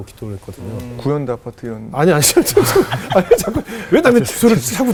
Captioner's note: laughing